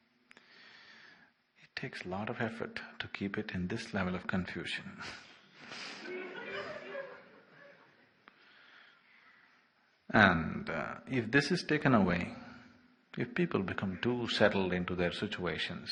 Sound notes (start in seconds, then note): 9.2 laughter